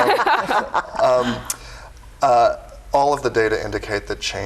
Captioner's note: laughing